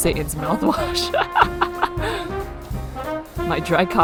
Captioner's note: laughs